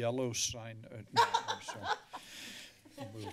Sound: laughter

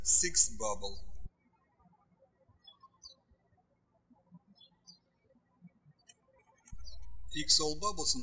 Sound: birds chirping

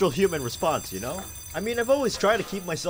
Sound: door opens

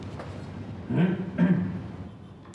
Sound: clearing throat

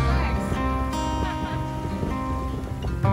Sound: laughing

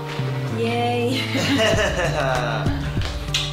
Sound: laughing

